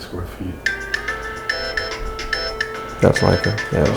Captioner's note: cell phone ringtone